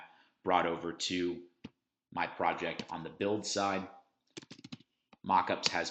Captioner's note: keyboard clacking